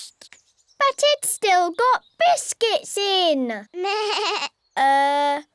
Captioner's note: bleats